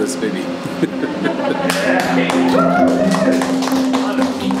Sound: laughing; staff cheering; upbeat music

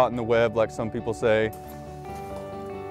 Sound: keys jingling

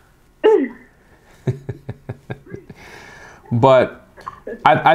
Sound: laughing

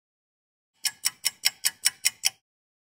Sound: sound of a ticking clock

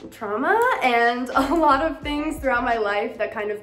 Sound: chuckles

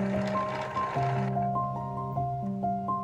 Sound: bobbin winding noise

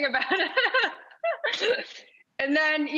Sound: laughs

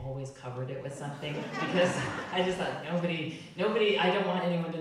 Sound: audience laughing

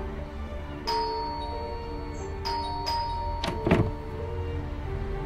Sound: doorbell ringing

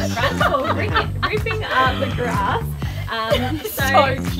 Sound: laughter

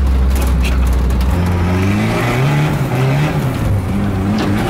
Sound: engine revving

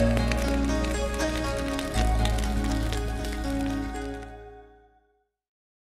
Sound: fire crackling

